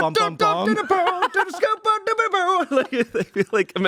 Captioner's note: Shayne vocalizes